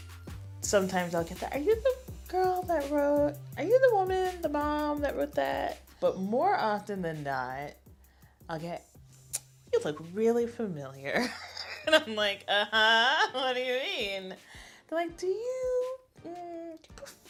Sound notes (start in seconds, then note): 1.5 higher voice; 9.2 tsks; 11.6 laughs; 15.1 higher voice